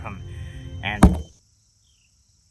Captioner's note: slam